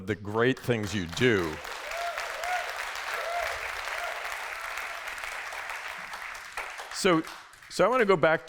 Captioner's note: applause